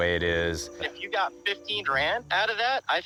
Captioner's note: on phone